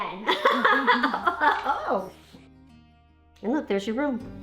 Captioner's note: laughing